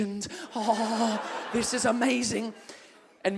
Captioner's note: moans